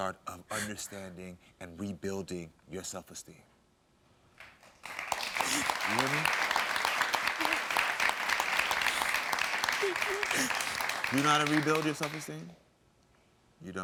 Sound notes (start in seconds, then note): 4.2 audience claps